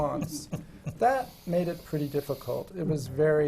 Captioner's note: laughs